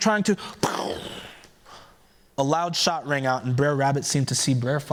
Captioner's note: mimics gunshot